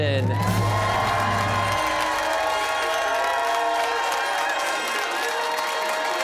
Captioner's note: cheers and applause